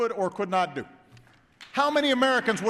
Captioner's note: applause